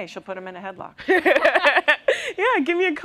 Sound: laughter

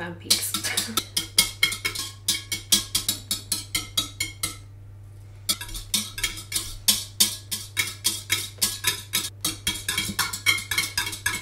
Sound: egg beating sounds

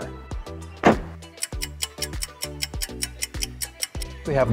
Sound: stopwatch ticking

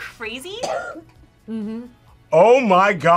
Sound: coughs

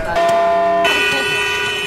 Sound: Traffic in Jakarta

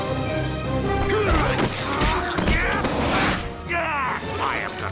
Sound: all grunting

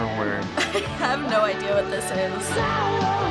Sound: laughing

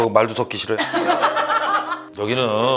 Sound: hahahaha

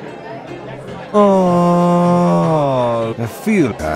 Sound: weird ass orgasm

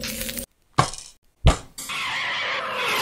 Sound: crash; engine Reving up

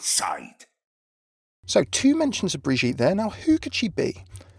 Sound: voiceover

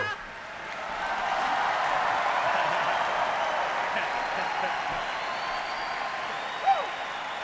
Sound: audience applause

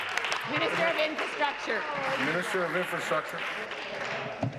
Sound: applause

